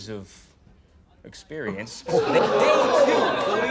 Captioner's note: crowd